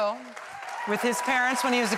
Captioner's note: applause